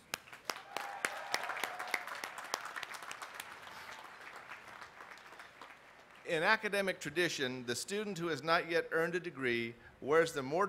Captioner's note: cheers and applause